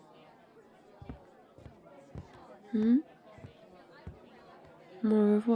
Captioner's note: footsteps leaving